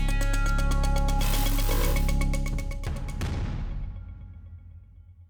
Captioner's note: static buzzes